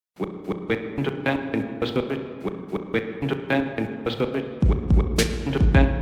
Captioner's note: stuttering unintelligible AI voice; upbeat music; stuttering AI voice